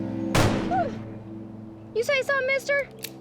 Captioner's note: gunshot